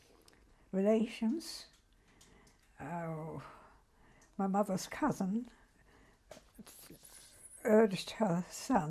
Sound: pauses for 3 seconds

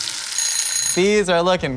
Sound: timer ringing

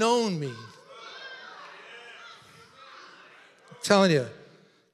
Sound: congregation chattering

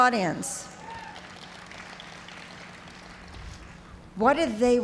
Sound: cheers and applause

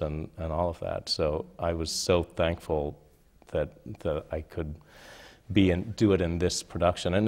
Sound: none

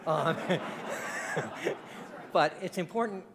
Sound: audience laughing

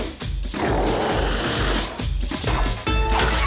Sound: roaring

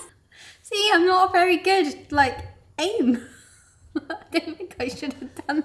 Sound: laughs

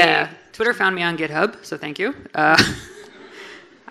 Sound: laughs

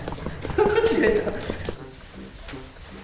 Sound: laughs

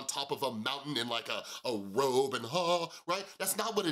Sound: vocalizes

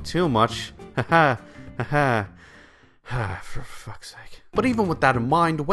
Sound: sigh

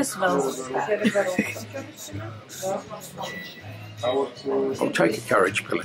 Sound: chuckles

